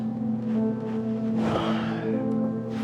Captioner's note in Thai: เสียงแปงถอนหายใจ